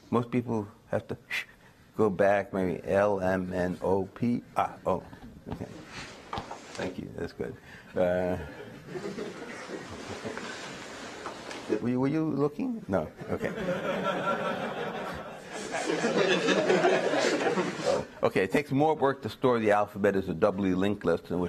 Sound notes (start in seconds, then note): 13.2 audience laughter